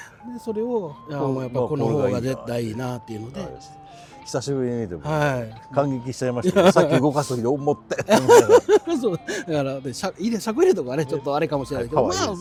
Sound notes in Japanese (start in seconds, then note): 7.9 笑い